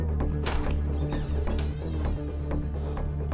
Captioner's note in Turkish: Kapı Açılıyor